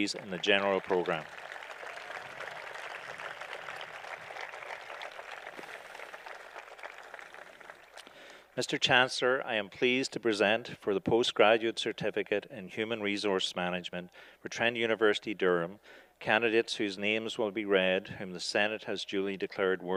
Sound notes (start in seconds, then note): 1.7 applause